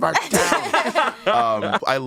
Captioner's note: everyone laughs